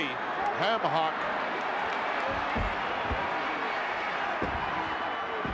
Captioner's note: crowd yelling